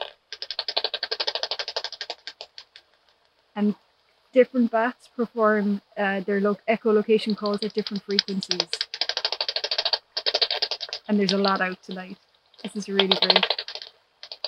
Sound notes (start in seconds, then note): 0.3 sound of echolocation clicks from a bat detector; 8.9 sound of echolocation clicks from a bat detector